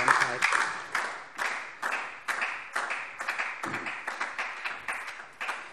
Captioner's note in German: Beifall DIE LINKE